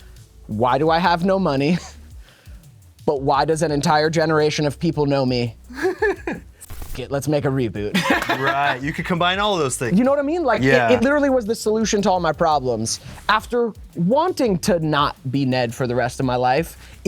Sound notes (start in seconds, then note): 5.7 laughs; 8.0 laughs